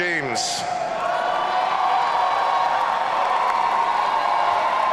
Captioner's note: audience cheering